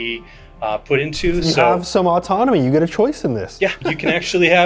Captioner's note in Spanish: ríe